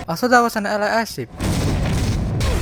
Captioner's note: boom!